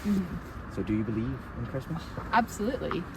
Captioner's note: mot? Asks very quietly